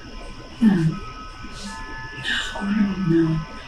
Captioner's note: crickets, wind chimes